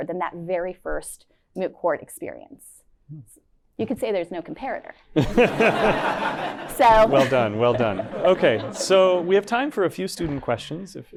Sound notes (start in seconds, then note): 5.2 laughter